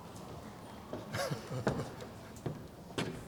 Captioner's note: laughter